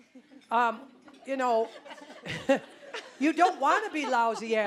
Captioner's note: audience laughing